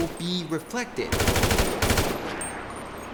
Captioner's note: machine gunfire